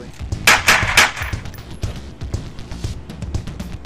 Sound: gun firing; dramatic music

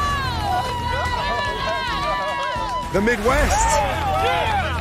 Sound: cheering

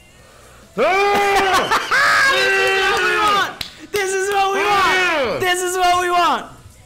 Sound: laugh; applause

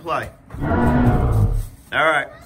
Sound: dinosaur roars

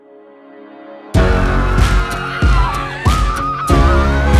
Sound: cheering

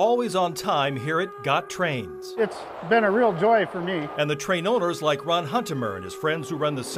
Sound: train whistle

